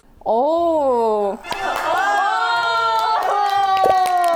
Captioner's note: clapping without knowing what it is